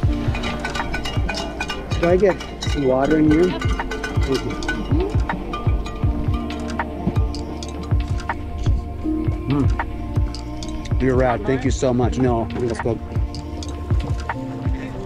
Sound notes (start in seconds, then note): 0.1 bell dinging